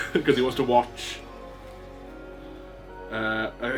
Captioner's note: laughs